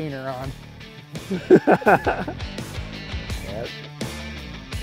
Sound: laughs

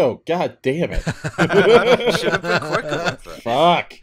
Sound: laughter

